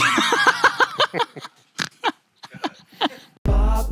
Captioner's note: laughs